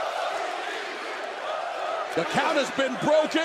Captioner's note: crowd cheering